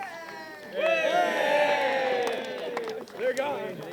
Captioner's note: cheering